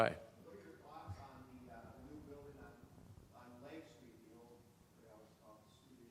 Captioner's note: crowd member speaking quietly